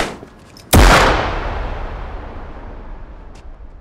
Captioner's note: balloon pops; shot firing